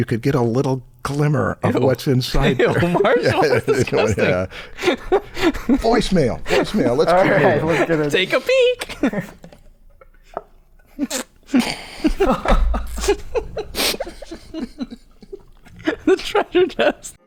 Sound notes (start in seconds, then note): 2.3 laughter; 13.9 chuckle